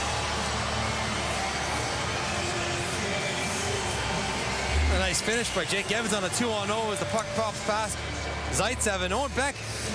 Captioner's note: cheering and Applause